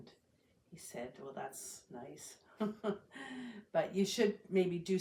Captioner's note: laughs